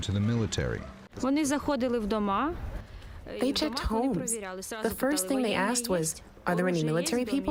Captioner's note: through translator